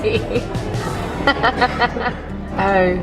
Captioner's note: laughing